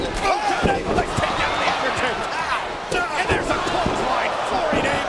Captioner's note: crowd chattering